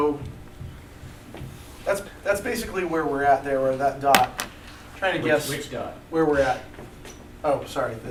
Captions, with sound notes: That's basically where we're at there, where that dot. Trying to guess-- - [Voiceover] Which dot? - --where we're at. Oh, sorry.